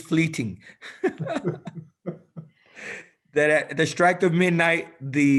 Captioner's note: laughter